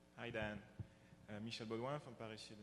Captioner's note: voiceover